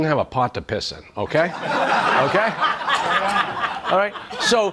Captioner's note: audience laughs